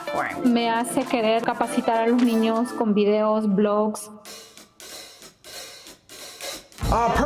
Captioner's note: non-english speech